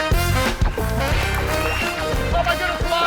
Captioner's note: air whooshes; audience applauds